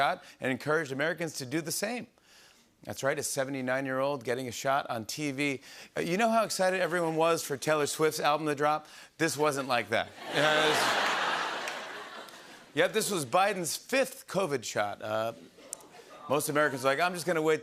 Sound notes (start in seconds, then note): 10.2 laughter